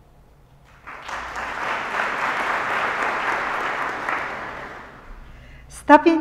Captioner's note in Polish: oklaski